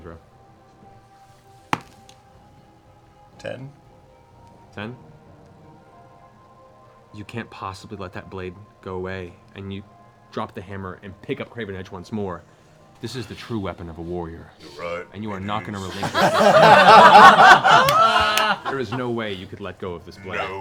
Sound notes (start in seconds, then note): 15.4 laughter